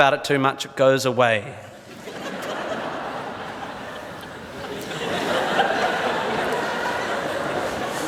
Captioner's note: audience laughs